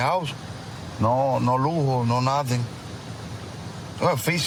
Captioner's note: speaking spanish